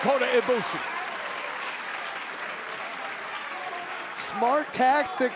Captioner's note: crowd cheering